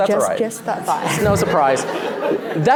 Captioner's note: laughter